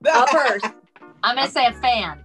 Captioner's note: Sheryl laughs